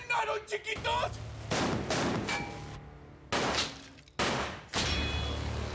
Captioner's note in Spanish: continúa la balacera